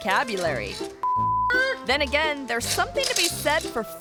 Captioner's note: beep